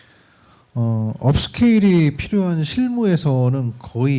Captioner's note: speaking korean